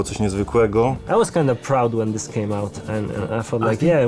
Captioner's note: in English